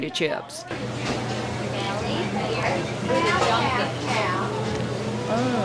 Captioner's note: staff chattering